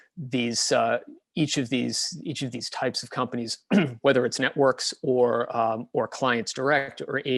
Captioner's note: cough